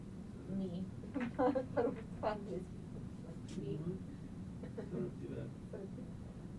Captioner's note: laughing